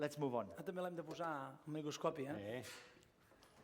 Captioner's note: non-english speech